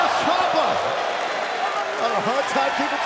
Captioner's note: crowd cheering